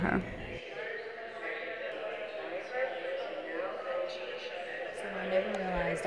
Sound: voices chattering

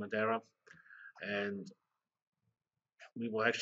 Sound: pause

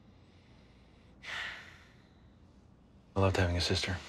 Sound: sighs

